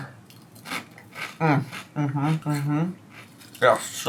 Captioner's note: crunching